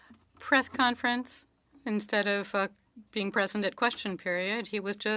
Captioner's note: speaking French